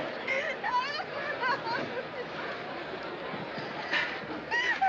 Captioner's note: Mrs. Cosick Crying